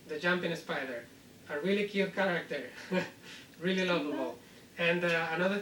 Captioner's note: laughs